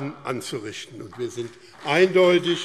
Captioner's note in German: Beifall BÜNDNIS 90/DIE GRÜNEN und vereinzelt CDU